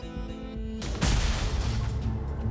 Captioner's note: intense music; thunderous explosion